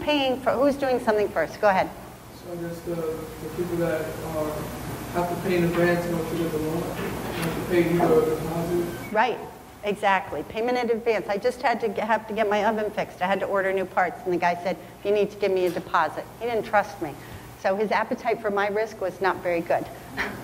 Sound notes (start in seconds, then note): 2.8 male attendee mumbling